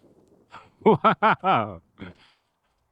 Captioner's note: laughing